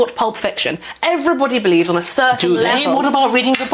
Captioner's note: interrupts